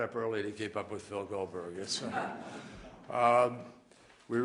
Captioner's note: laughter